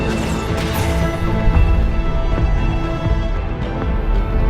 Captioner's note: thundering